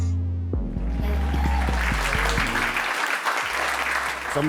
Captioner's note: applause